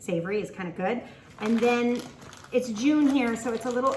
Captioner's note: paper rustling